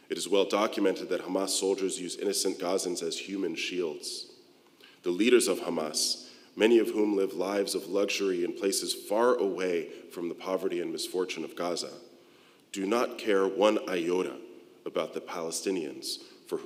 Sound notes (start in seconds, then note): none